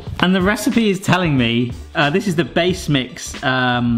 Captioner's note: none